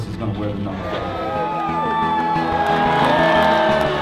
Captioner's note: cheering